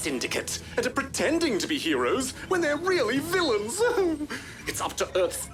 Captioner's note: giggles